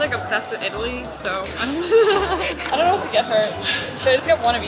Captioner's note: laughs